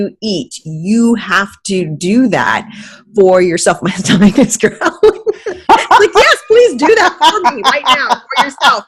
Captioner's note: laughing